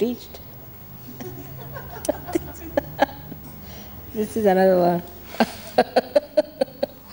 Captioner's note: laughs